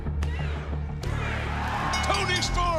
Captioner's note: bell ringing